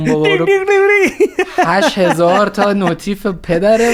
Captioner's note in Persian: خنده